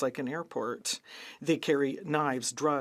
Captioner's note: speaking French